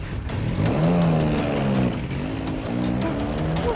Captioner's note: engine revs